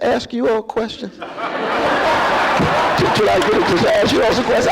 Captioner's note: laughter